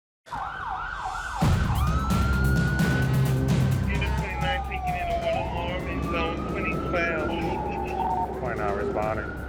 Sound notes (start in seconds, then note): 2.1 sirens wailing